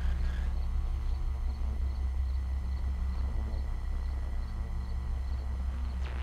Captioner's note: radio buzzing